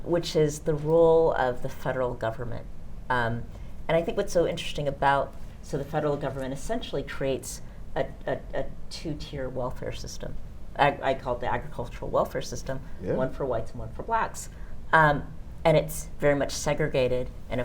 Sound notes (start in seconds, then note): none